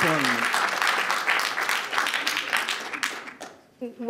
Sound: applause

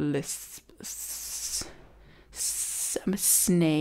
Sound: hisses

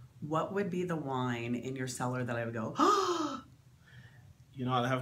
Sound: gasp

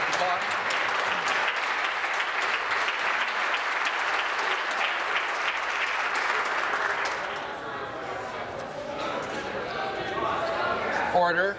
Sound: applause

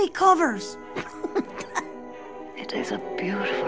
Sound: laughs

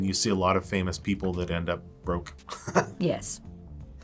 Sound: chuckles

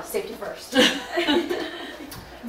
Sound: audience laughing

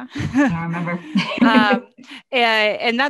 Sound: laughs

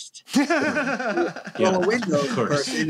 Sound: laughter

